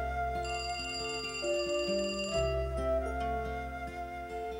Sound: phone ringing

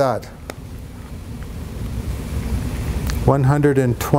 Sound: marker cap clicks

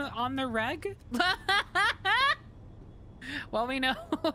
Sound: laughter

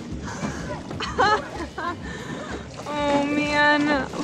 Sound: laughing

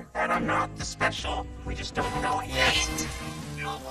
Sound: whispers

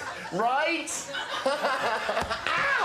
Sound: laughter

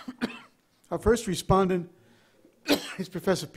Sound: coughs; coughs

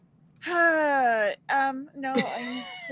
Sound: sighs

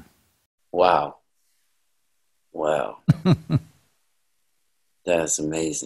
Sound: Sadhguru laughs

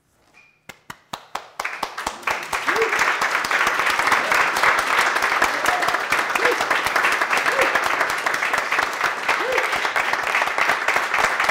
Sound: applause

